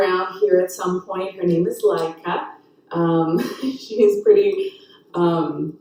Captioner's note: chuckles